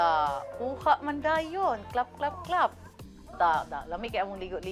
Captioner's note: claps